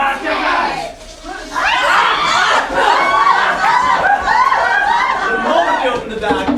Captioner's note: whistling, sailors screaming